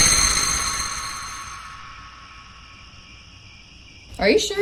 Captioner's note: crickets